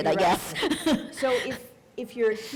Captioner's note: chuckle